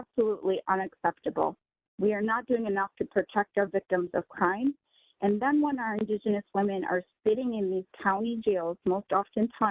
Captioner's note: speaking in native language